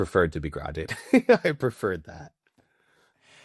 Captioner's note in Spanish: Riendo